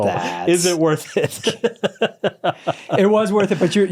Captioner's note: laughs